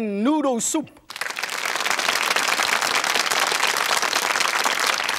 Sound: audience claps

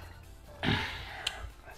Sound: sigh

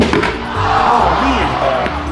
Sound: crowd groaning in dismay

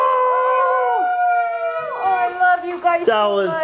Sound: all cheer

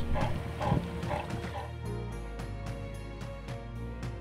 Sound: sea lions barking

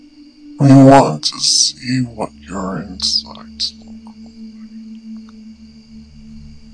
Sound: distorted deep voice

